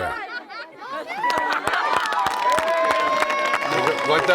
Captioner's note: villagers cheering